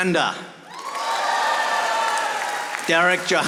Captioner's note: audience applauding